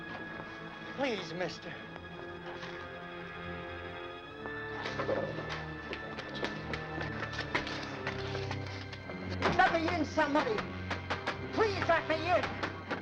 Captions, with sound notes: Please, mister. Let me in, somebody. (fists banging) Please let me in.